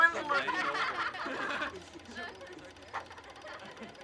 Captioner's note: kids laughing